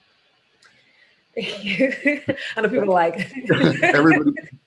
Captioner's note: laughs